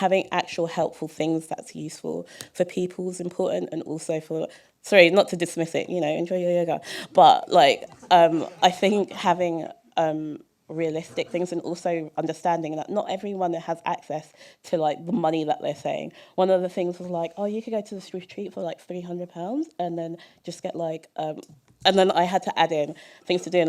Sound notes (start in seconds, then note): 7.4 laughter